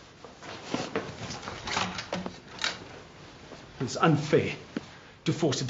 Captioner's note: shuffling